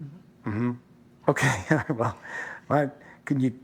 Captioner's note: chuckles